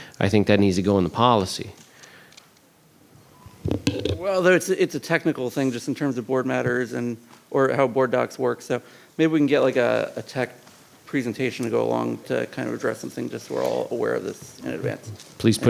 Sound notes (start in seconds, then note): none